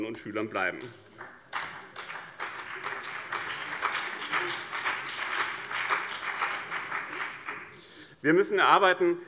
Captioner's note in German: Beifall BÜNDNIS 90/DIE GRÜNEN und CDU